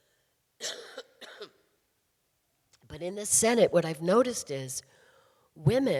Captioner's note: coughing